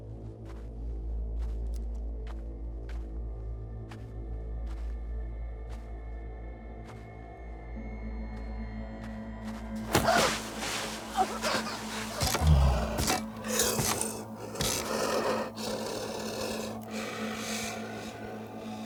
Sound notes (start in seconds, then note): 9.5 gasps; 12.5 growling